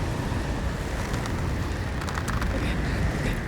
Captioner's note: wind howling